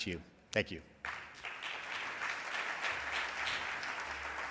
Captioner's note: audience applauds